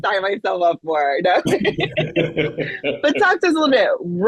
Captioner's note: laughing